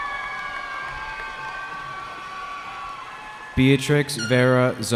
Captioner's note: cheering